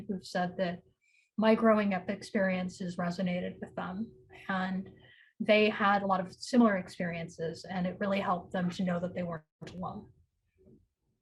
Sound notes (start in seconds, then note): none